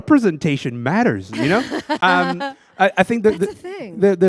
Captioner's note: laughter